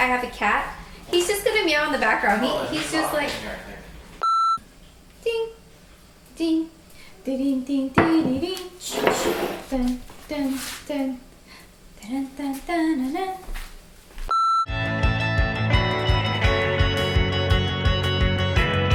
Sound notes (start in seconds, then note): 5.0 humming; 14.7 upbeat instrumental music